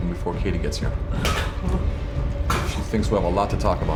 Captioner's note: choking